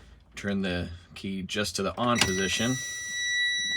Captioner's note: truck beeping